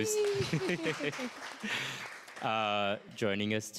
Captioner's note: applause